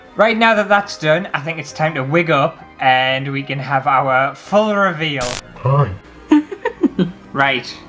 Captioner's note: spooky laughter